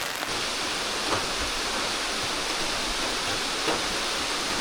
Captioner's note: rain